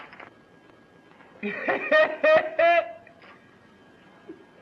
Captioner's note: Slim laughing